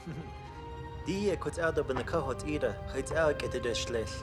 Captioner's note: speaking Navajo